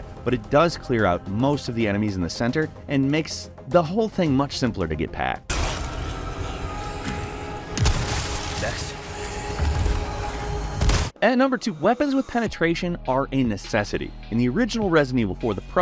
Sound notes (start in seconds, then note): 7.7 gunshot; 7.8 wet burst; 10.7 gunshot